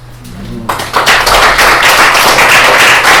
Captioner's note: applause